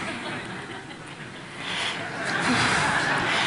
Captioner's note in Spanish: Risas